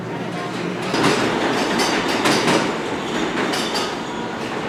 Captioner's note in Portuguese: Barulho de metrô